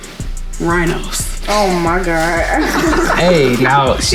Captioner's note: group laughs